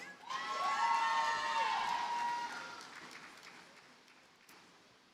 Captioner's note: audience cheers and applauds